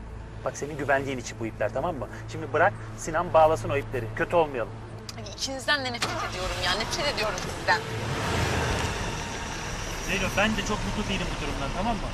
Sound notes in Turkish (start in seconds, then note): 7.9 Araba motor sesi